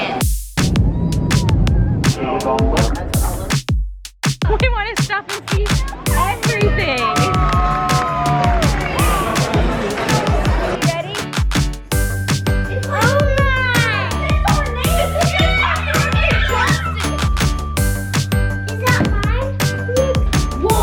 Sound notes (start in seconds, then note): 0.5 upbeat music; 7.7 upbeat music; 15.6 children chattering; 19.9 children cheering; 20.6 upbeat music